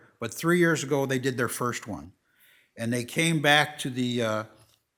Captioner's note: none